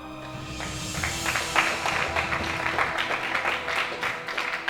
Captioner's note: audience clapping